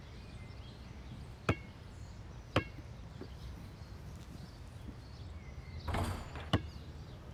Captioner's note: birds chirping; basket ball thudding